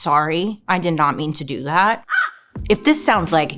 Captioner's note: cawing